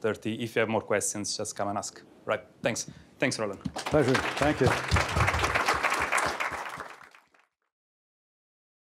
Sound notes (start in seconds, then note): 5.2 applause